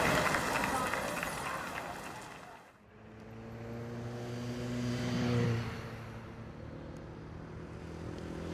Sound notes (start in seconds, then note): 2.8 car buzzing